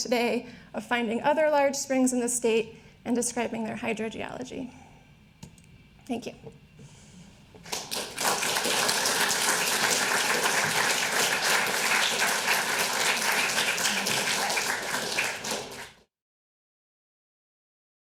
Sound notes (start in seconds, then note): 7.6 audience applauding